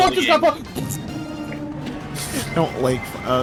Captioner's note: fart reverb sfx